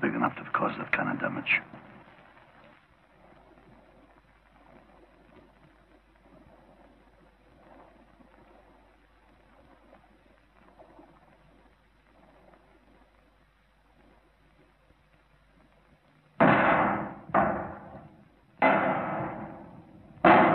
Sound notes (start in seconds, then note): 16.7 metallic clanging